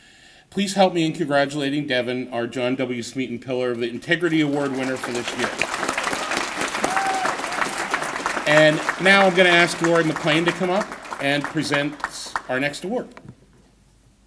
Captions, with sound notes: Please help me in congratulating Devyn, our John W. Smeaton Pillar of Integrity award winner for this year. (applause) And now I'm gonna ask Lori McClain to come up and present our next award.